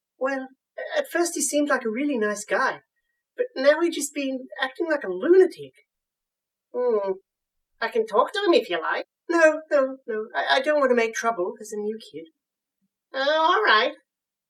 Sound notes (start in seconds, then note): none